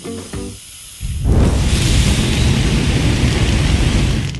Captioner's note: fire whooshing